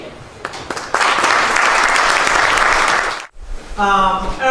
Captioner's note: applause